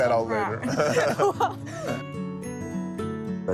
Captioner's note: both laughing